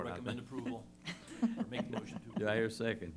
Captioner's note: laughter